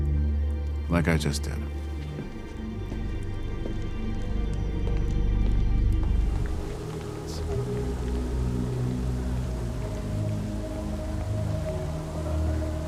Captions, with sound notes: like I just did. (footsteps clicking) (gentle music)